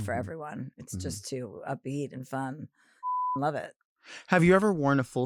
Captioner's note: beep